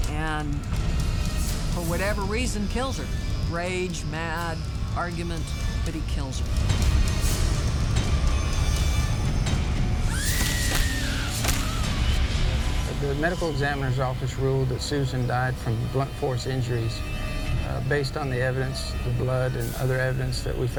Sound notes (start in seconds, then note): 7.1 dramatic ominous instrumental music; 10.5 lady shouting in terror